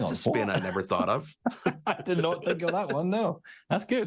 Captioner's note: laughing